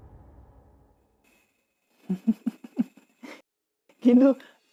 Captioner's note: laughing